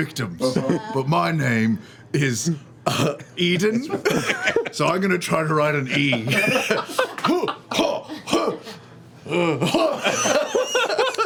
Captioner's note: grunts